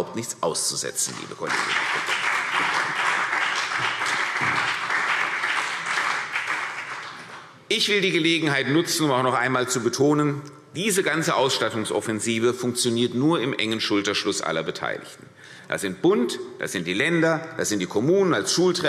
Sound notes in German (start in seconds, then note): 3.8 Beifall CDU und BÜNDNIS 90/DIE GRÜNEN